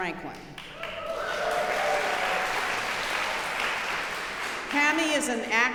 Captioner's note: audience cheering and applauding